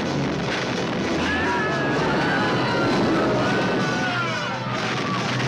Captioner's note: people screaming